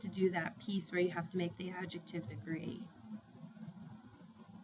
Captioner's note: spanish